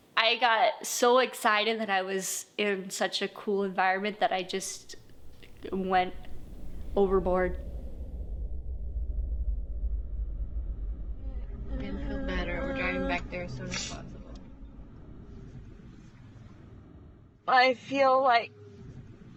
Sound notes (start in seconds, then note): 12.1 crying